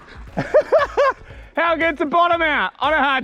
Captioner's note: laughs